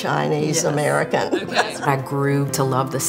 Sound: laughing

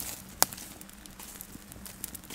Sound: crackling

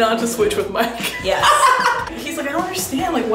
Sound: laughing

